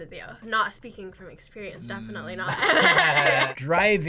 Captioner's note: laughs